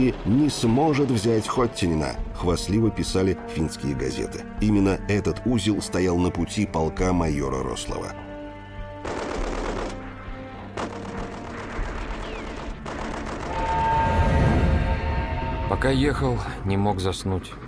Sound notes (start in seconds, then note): 8.9 burst of machine gun fire; 13.5 locomotive whistling